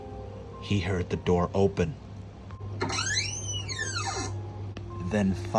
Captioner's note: door opens